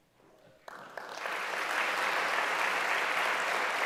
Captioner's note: applause